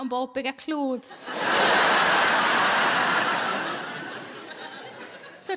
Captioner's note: audience laughing